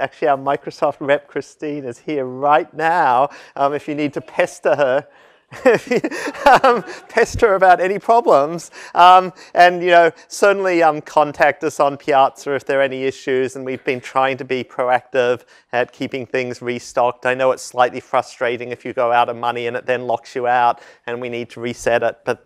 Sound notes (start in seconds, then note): 5.5 laugh